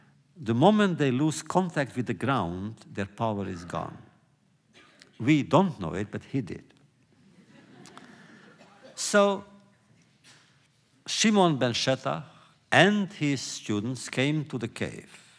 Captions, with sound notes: The moment they lose contact with the ground, their power is gone. We don’t know it, but he did. (laughter) So Shimon ben Shatakh and his students came to the cave,